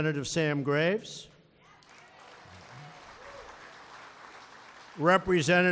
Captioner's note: applause